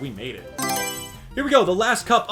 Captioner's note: Mario Selection Sound